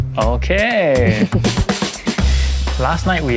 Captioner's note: laughs